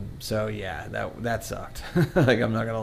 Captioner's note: laughs